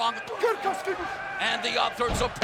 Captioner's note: wrestler speaks in foreign language